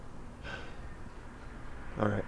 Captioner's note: sighs